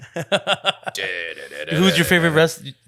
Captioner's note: laughs